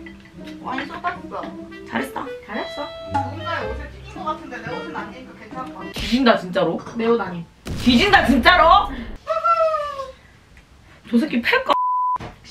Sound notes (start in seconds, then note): 9.1 excited